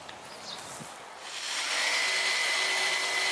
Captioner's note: high-pitched mechanical whirring